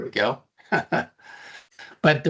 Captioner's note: chuckling